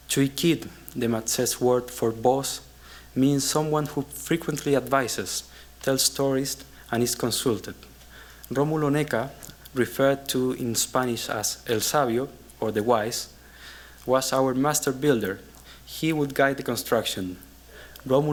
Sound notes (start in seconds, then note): 11.8 spanish